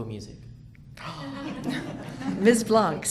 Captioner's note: audience laughs